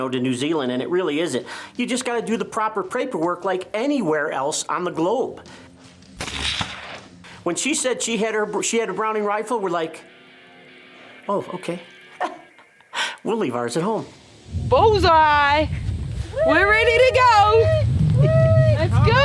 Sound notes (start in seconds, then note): 6.2 rifle firing; 12.4 laughs